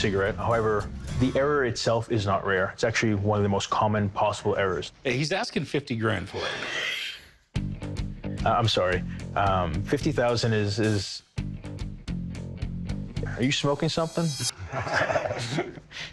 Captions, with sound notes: However, the error itself is not rare. It's actually one of the most common possible errors. He's asking $50,000 for it. [laughs] I'm sorry. $50,000 is-- are you smoking something? [laughter]